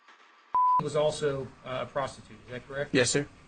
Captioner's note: beep